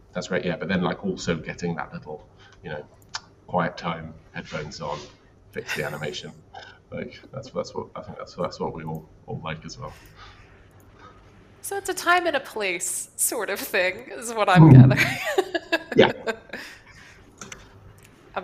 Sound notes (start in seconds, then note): 14.6 laughs